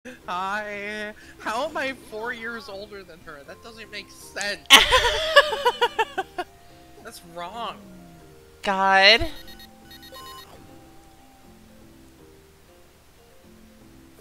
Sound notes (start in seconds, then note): 4.7 laughing